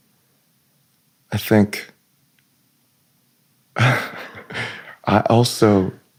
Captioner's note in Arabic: يمسح الحلق